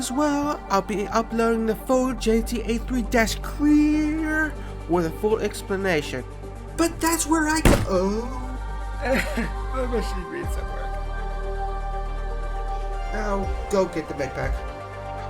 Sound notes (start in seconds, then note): 9.2 cough